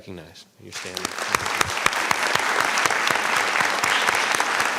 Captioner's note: applause